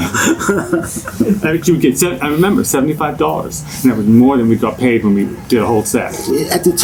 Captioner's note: laughter